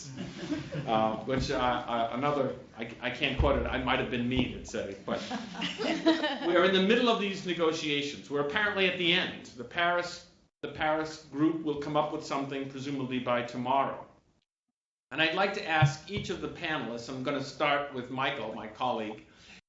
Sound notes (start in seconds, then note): 1.5 laughter